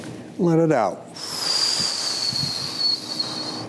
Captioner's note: exhales